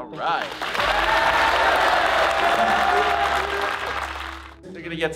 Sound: crowd cheering

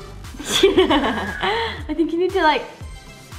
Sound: laughing

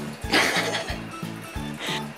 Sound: laughs

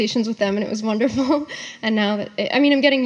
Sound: laughs

